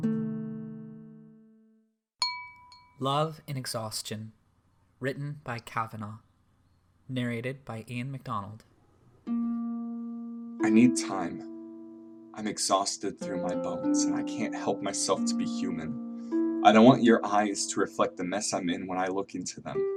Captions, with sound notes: [music stops] [chime sound] "Love in Exhaustion" written by Cavanaugh narrated by Ian Macdonald I need time I’m exhausted through my bones and I can’t help myself to be human I don’t want your eyes to reflect the mess I’m in when I look into them